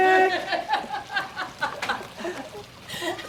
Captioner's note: mom laughs